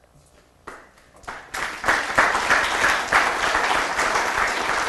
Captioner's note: applause